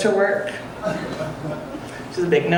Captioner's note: audience laughing